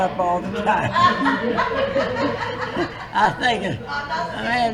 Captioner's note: laughter